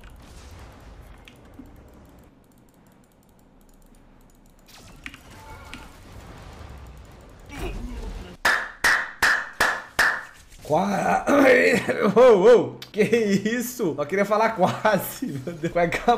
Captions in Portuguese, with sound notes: [palmas] Quaa... ahem ahem ou ou Que isso! Só queria falar quase meu Deus.